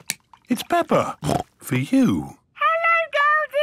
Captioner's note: snorts